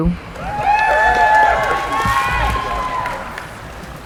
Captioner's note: cheering